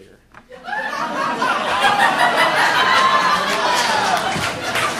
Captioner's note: audience laughing